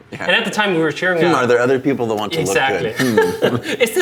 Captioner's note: laughs